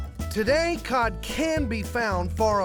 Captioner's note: none